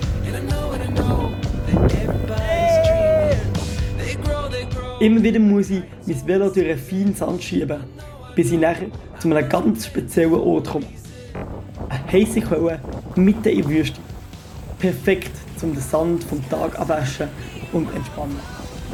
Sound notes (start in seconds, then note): 2.3 shout of joy